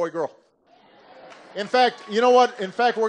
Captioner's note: laughter